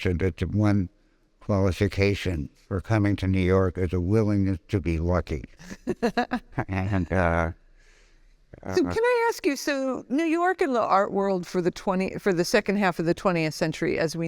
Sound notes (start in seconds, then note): 5.6 laughing